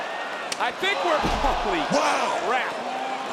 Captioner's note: fists thwack